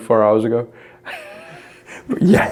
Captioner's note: laughs